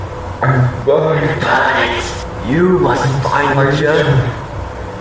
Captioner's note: distorted